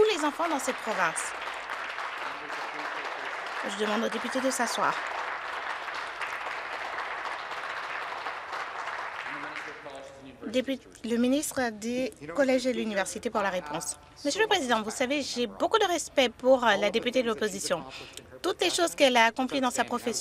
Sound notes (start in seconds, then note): 5.5 some Applause